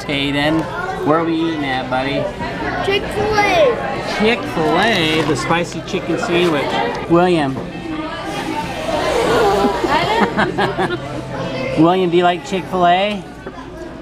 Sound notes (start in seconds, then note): 8.2 blowing; 9.4 laughs